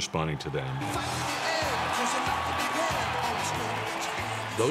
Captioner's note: cheering